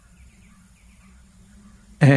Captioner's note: birds chirping